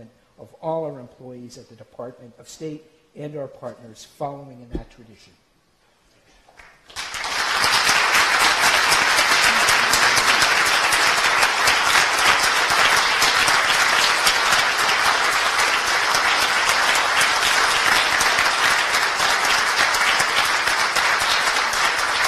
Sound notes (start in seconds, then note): 6.5 applause